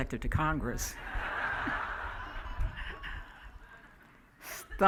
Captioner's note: laughing